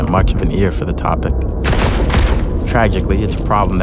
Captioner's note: sound of gunshots